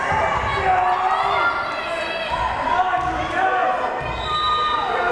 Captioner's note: crowd cheering